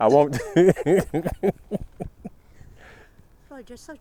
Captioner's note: laughing